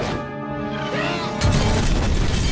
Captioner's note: none